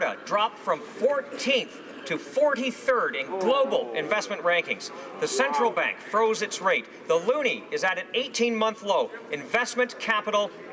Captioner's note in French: voix de l'interprte